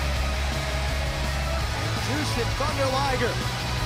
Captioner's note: crowd cheering